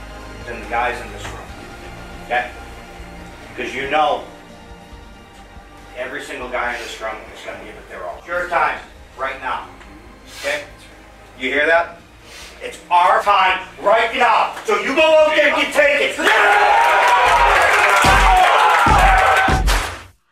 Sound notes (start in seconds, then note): 16.1 cheering